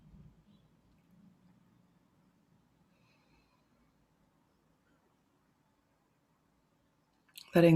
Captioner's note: silence